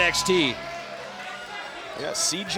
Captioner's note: crowd cheering